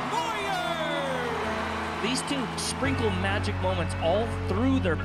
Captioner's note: cheers